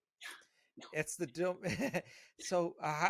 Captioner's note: murmuring softly